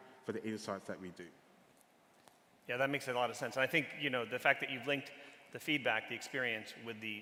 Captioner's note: none